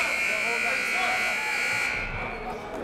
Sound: buzzer

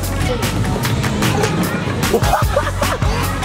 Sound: kids playing

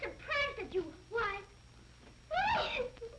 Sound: crying

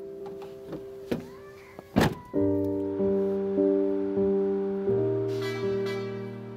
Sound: car horn honks; melancholy music

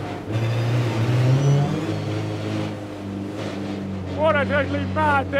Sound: engine revving

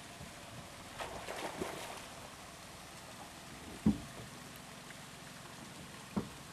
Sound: fish splashing; boat engine running

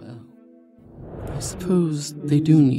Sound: whoosh again

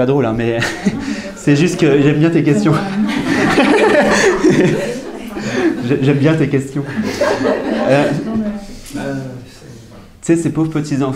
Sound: everybody laughs

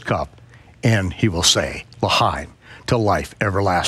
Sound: speaking in foreign language

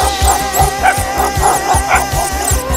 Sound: dogs bark

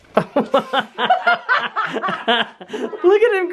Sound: laughs

